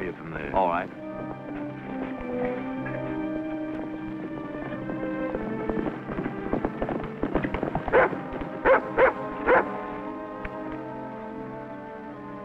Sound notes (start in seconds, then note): 3.8 soft music; 9.4 dog barks